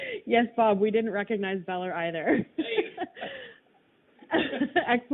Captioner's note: laughing